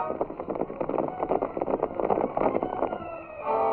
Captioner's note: horses galloping